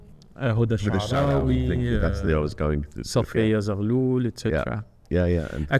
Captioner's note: speaking foreign language